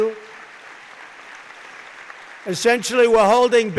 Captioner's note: applause